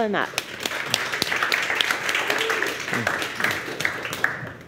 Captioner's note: crowd applause